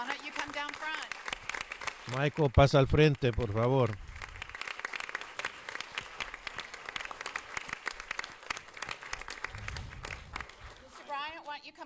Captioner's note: applause